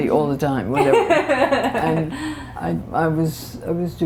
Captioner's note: laughter